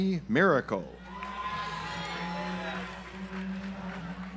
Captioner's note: audience applauds